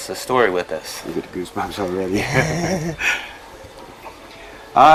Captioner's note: chuckles